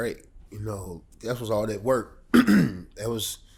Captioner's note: clears throat